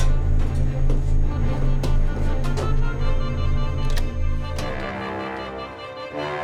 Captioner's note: none